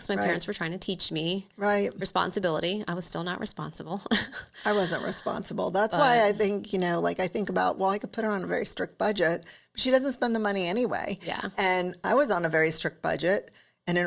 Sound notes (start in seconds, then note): 4.3 laughs